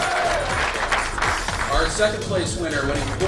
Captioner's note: cheering and applause